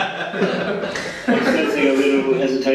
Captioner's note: laughing